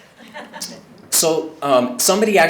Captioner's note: audience members laughing